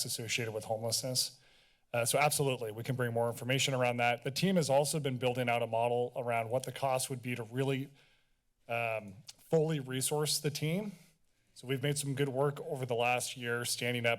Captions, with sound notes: associated with homelessness. Uh, so absolutely we can bring more information around that. The team is also been building out a model around what the cost would be to really um, [clicks tongue] fully resource the team. So we've made some good work over the last years standing